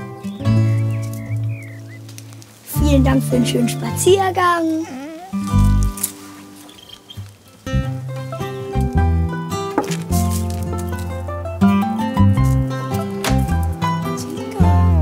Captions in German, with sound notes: Vielen Dank für den schönen Spaziergang. (Winseln) (Entspannte Musik) (Türklappern) Tinka?